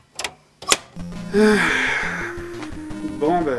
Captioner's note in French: Soupir